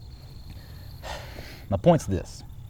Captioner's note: sighing